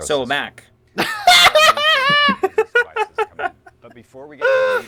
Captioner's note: laugh